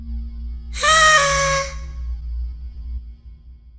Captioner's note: party horn